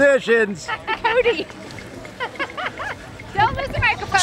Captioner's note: laughter